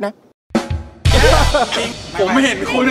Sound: chuckles

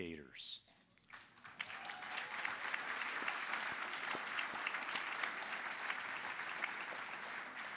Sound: applause

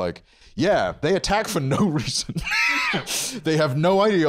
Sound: laughs

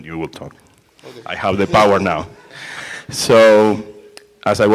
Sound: laughter

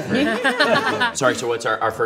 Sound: laughter

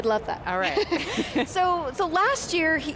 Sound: laughs

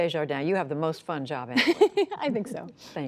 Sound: laughter

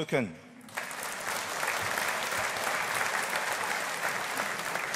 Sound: audience applauding

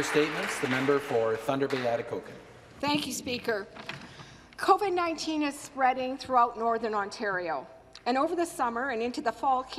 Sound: some Applause

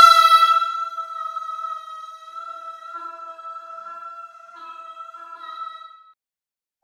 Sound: ominous sound

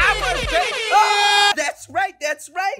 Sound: scream

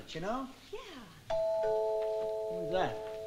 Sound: doorbell rings

